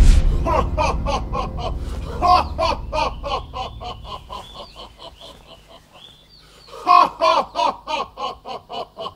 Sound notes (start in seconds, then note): 2.1 Kain: stupidest evil laugh ever